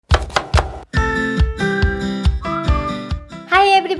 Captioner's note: chopping